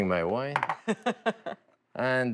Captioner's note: laughs